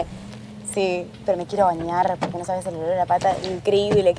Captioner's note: door Opening; door Closing